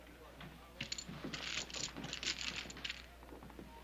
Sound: clinking

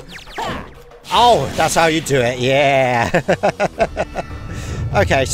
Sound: laughter

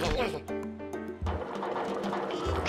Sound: rollers clanking

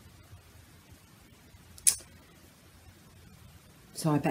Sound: clicks teeth

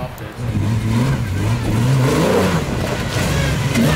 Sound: car engine revs

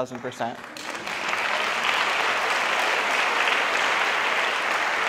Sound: audience applauds

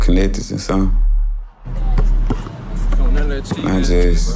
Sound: ball thudding

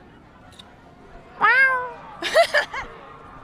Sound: meowing; interviewer laughing

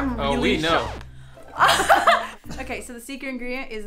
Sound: laughing

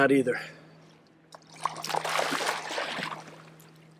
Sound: water splashes

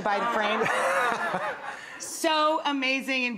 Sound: audience laughs

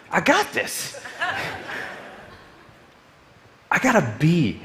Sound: audience laughing

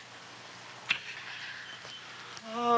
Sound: lips smacking

